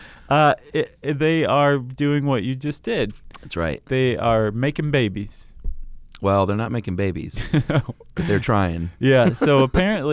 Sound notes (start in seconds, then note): 7.3 laughs